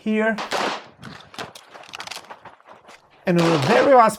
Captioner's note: gun clicking